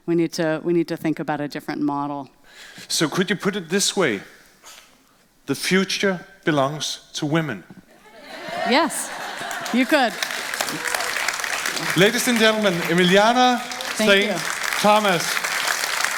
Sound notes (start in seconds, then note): 10.3 audience applauding